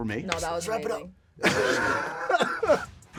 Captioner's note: laughing